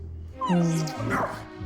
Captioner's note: dog whining; dog barking